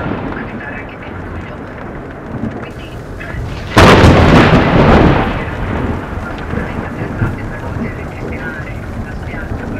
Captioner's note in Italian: Voce alla radio